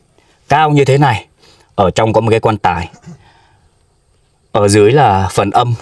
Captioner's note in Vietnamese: khịt mũi